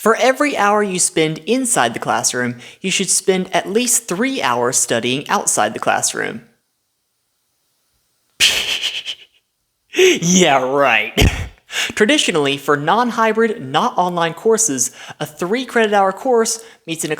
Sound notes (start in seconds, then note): 8.3 stifled laugh